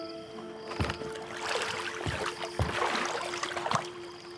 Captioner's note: water splashing